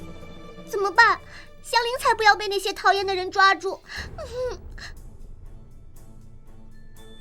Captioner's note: sniffle